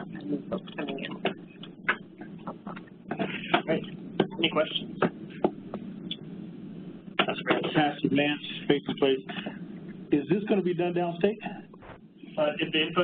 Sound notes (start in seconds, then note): 7.8 pat